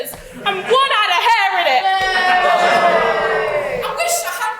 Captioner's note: audience boos